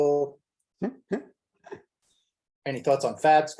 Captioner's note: chuckles